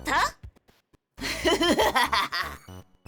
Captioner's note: evil laughter